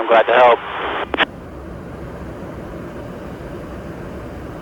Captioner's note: aircraft whooshing